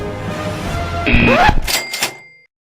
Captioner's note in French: scratch vinyl